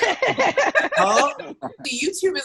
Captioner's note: all laughing